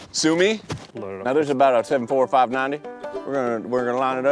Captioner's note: southern accent